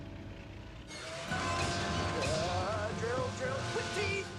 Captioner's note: whirring